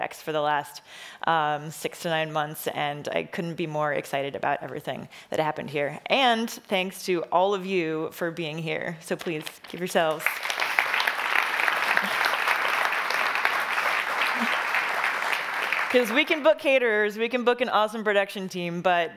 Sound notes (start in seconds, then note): 10.1 audience applauding